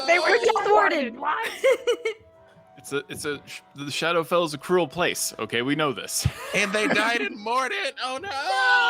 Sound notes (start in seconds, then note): 1.4 laughs; 6.3 laughs